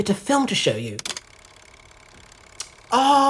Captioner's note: the projector clicks, starts again